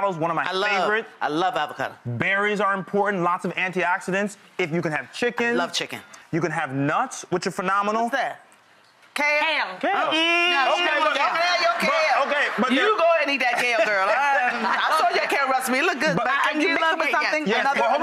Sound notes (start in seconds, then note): 10.8 audience laughs; 14.1 laugh